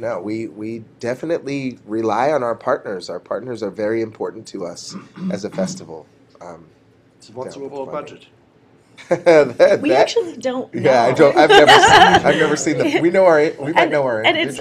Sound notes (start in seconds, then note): 11.1 laughter